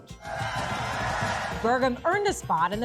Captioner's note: people cheering